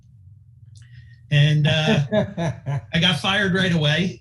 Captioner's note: laughing